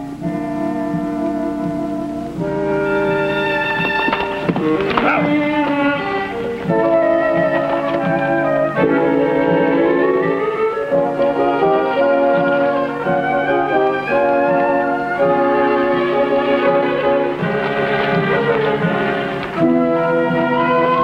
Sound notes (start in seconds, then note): 0.3 dramatic orchestral music; 4.2 horses trotting; 7.5 dramatic orchestral music